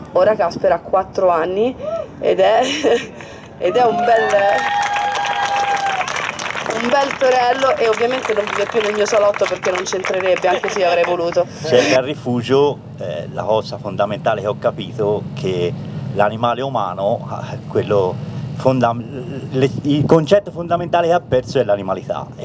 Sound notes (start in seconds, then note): 4.1 applause